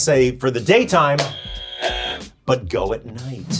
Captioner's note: buzzer buzzing; hand thumps